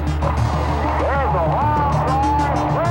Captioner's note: ball thumps